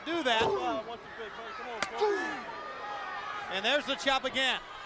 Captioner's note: crowd cheering